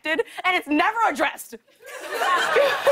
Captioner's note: laughter